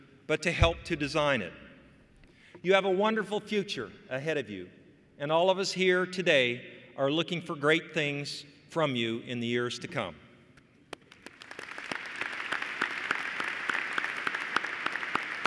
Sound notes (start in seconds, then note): 10.9 applause